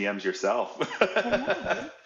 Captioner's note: laughing